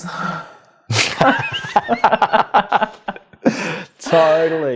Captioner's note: both laugh